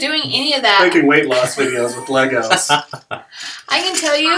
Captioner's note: laughing